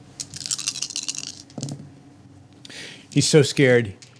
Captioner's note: dice rattling